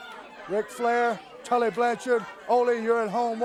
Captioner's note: crowd chatter